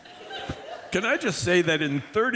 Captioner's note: applause